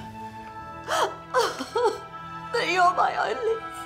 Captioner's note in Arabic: أم تبكي